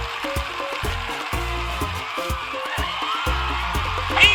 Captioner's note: cheers